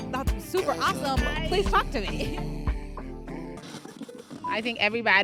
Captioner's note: laughs